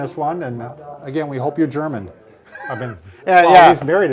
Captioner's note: laughs